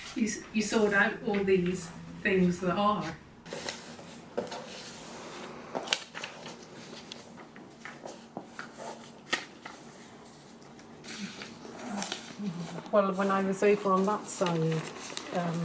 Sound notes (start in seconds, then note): 0.0 laughs; 4.5 pages ruffle